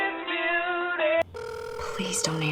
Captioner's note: phone ringing